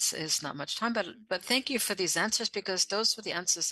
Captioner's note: speaking French